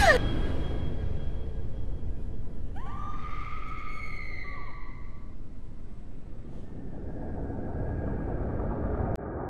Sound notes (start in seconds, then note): 2.7 distant screaming